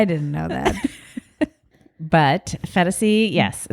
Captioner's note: both laugh